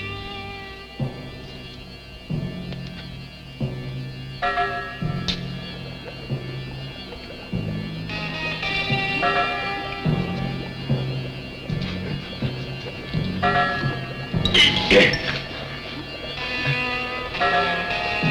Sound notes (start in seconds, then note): 14.4 grunting